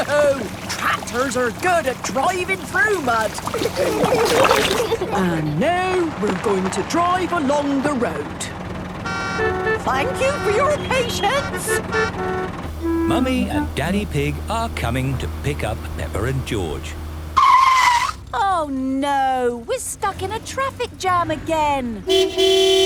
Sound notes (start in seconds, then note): 2.9 giggling; 9.1 cars honking; 17.6 tires screeching; 22.0 honking